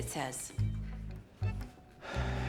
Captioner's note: sighs heavily